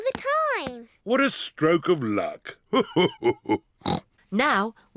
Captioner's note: laughs; snorts